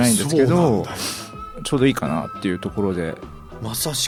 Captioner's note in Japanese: 鼻息